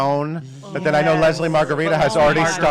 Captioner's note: gasping